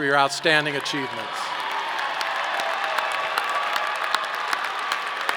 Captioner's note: audience cheering